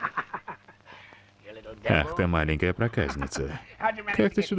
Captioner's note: laughs